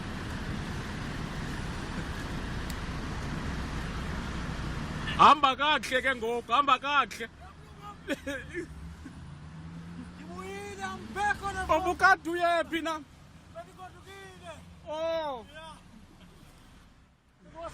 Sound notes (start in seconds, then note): 5.1 driver speaks in foreign language; 11.7 driver speaks in foreign language